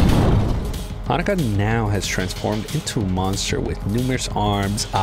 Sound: more explosions

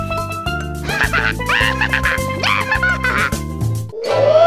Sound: Toad laughing

